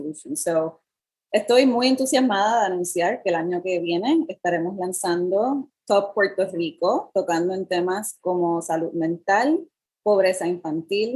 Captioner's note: speaking in Foreign Language